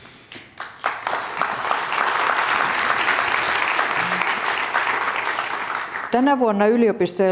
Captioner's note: applause